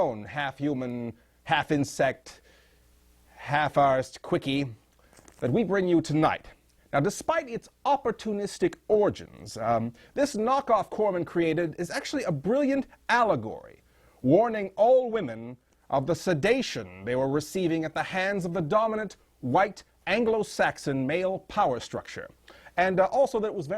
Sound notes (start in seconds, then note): none